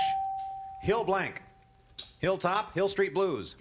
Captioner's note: ding